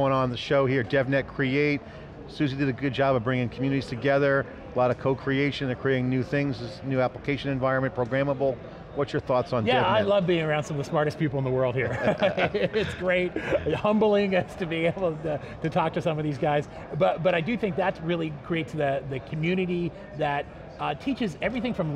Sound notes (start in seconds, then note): 11.8 laughing